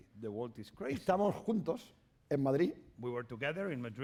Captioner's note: speaking spanish